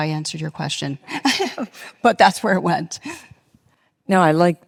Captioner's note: laughs